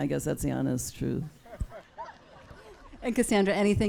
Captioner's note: audience laughs